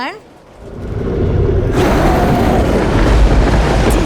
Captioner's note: monstrous growl; thunder clap